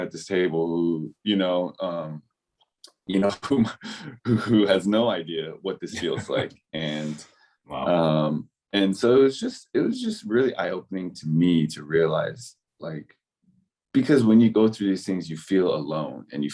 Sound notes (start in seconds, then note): 5.8 laughs